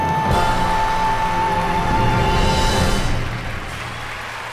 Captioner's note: audience applauding